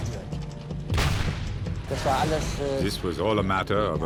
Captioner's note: shell exploding; tank turret firing